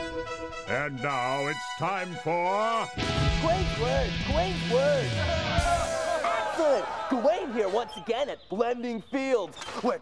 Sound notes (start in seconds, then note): 4.4 crowd cheering